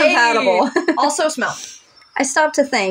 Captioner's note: laugh